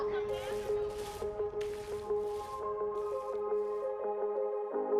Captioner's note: paint brush rustles